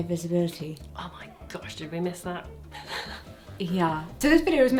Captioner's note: laughing